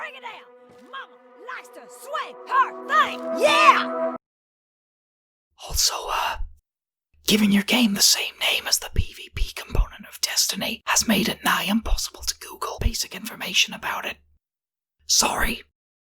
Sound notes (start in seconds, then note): 5.7 whispering; 14.3 beat